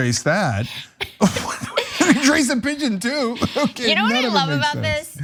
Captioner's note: laugh